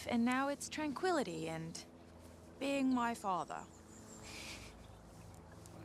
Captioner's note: chuckles